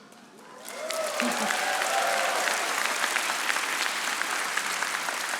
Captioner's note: audience applauding